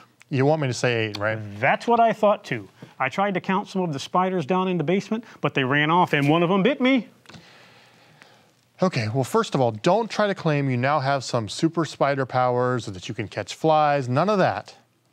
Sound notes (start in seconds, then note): none